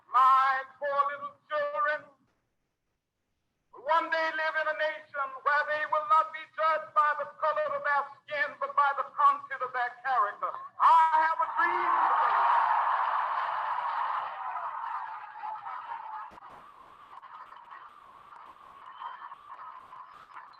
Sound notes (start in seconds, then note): 11.5 audience applauding